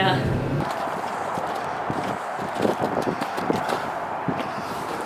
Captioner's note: distant traffic humming